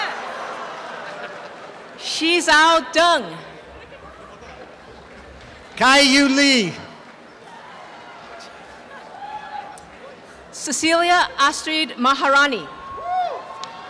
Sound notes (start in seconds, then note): 0.0 laughter and cheering; 8.2 applause and cheering